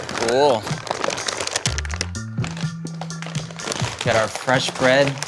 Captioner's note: bag crinkling